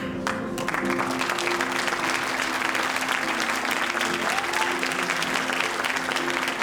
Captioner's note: audience applauding and cheering